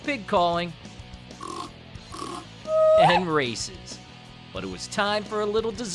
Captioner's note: pig grunting